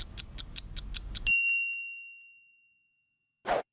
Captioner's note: clock ticking; bell dings